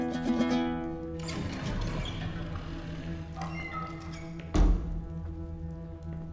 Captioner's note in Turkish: Kapı sesi